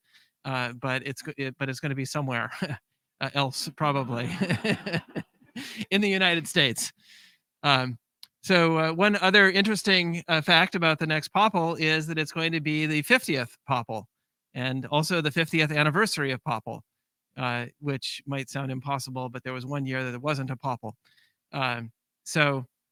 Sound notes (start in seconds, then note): 4.0 laughter